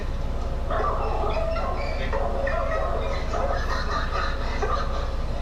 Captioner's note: dogs barking